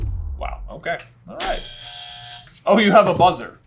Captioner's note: buzzer